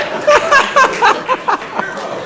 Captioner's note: laughing